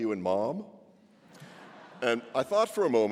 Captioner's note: laughter